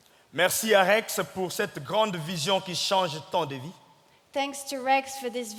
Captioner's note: speaking in French